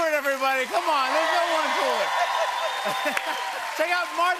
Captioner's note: cheers and applause